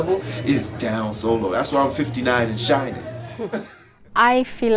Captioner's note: laughs